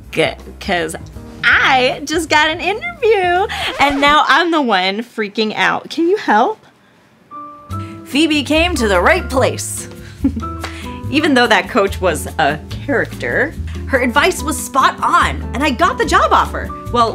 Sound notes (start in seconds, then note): 3.5 record scratching; 10.1 giggles